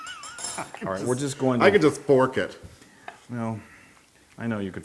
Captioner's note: laugh